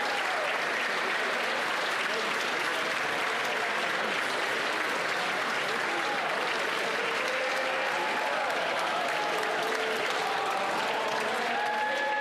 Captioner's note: applause